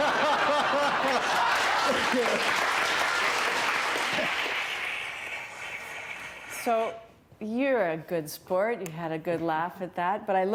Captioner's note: laughter; applause